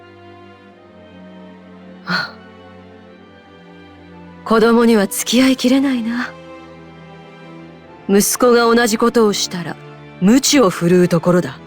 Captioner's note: sigh